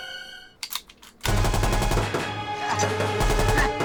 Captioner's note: machine gun firing